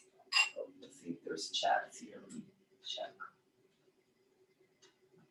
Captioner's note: whispers